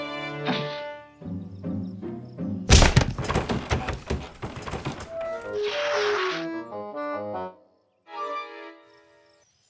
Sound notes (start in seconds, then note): 2.7 smack; 2.7 doors flapping